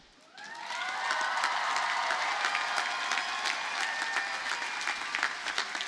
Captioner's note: audience cheers and applauds